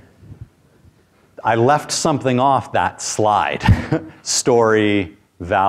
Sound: chuckles

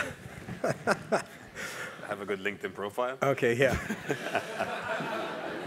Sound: laugh

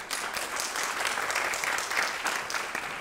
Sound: applause

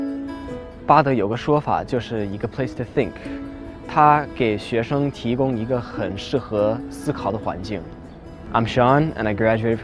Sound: speaking in Chinese

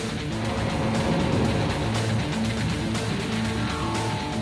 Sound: machine whirring

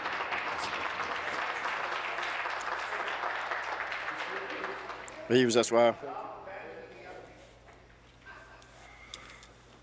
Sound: applause

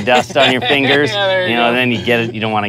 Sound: laughs

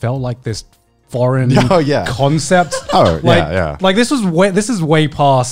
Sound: laughing softly

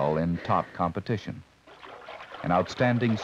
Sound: water splashing

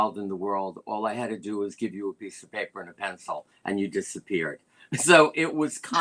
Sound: laughter

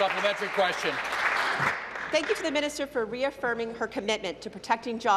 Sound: applause

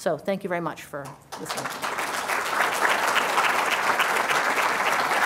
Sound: applause

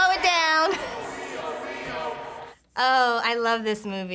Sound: chuckling

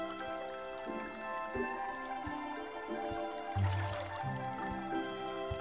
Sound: splashing

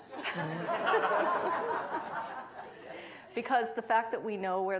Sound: audience laughing; laughs

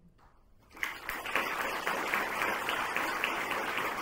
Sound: crowd clapping

